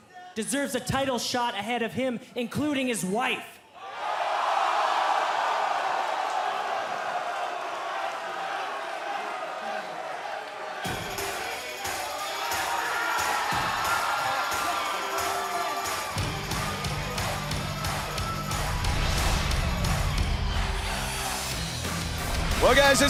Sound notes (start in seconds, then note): 5.9 cheers & applause